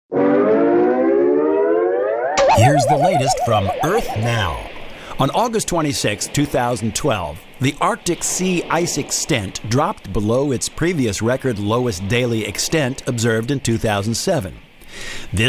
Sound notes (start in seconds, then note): 0.2 sound effect; 1.1 ocean sounds in background